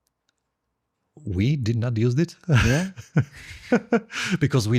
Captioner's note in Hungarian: nevetés